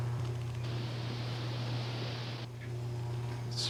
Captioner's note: leaves rustling